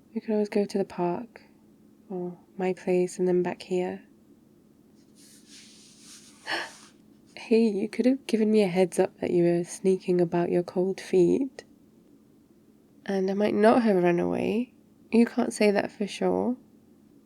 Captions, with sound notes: we could always go to the park or my place and then back here *shuffling* *gasp* hey, you could have given me a heads up that you were sneaking about your cold feet and I might NOT have run away you can't say that for sure